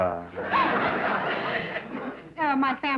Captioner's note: laughter